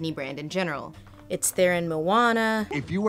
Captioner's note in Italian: voce fuori campo